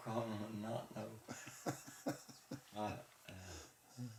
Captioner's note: chuckling